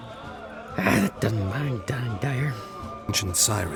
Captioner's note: grumbling